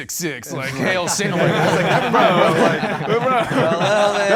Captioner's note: participants laughing